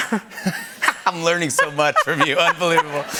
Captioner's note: laughter